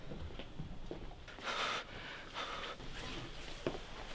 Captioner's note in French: Respirations Accélérées